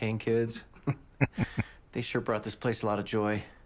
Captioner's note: chuckling